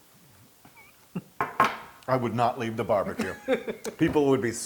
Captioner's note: laugh